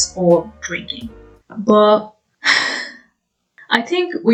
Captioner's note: sigh